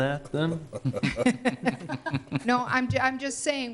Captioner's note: everyone laughing